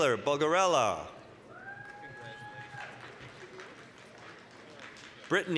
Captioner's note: applause, cheering